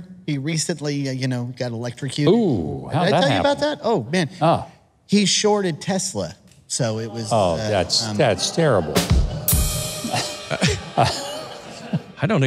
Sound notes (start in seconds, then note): 6.9 audience groans; 9.6 laughter